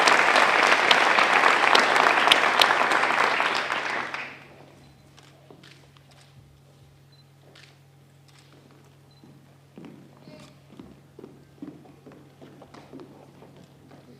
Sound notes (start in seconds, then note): 0.0 applause